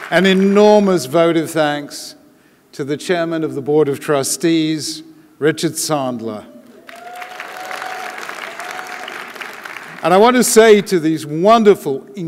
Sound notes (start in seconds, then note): 6.8 audience applauding